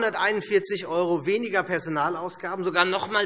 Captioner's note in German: none